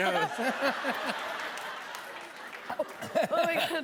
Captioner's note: laughter